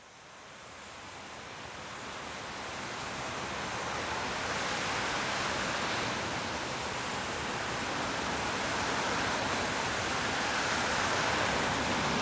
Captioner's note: traffic noise